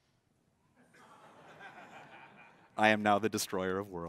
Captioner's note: laughter